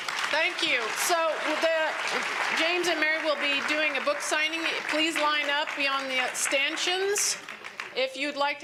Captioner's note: applause